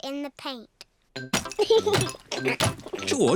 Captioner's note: giggles